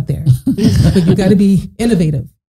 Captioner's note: both laughing